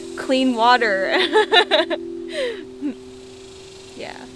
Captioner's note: laughs